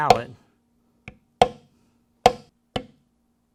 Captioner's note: tapping